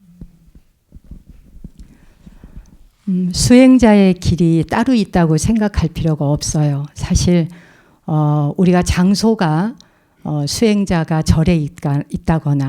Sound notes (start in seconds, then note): 3.8 speaking in Korean